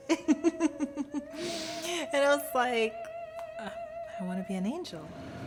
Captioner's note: laughing